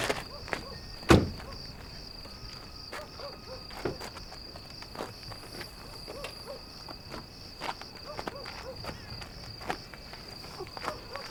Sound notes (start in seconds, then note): 6.0 dogs barking in distance